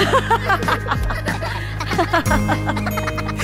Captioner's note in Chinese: 哈哈哈